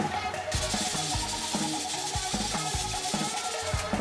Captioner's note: sound of the pressure cooker releasing steam